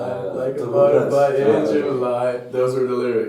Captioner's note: in Slovene